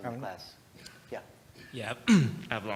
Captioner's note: cough